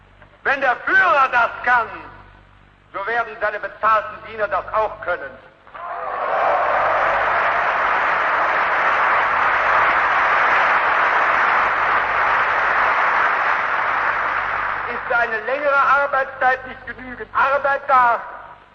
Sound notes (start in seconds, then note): 6.1 applause